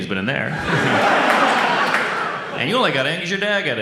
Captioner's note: audience laughs